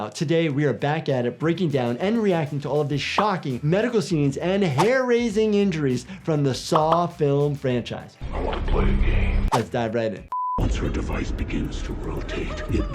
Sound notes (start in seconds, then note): 10.3 beep; 11.3 voiceover